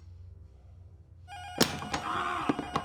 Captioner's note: intercom rings